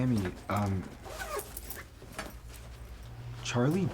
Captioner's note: zipper rasping